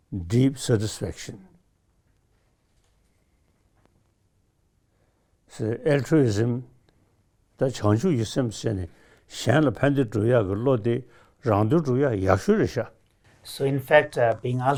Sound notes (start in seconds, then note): 6.6 speaks in Tibetan